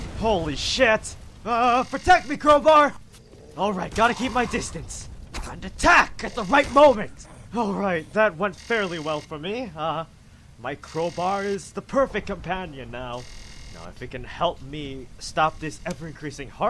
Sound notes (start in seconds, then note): 3.3 zombie snarls